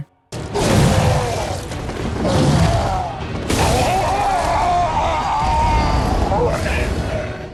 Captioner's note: hunter fighting boss with vicious sounds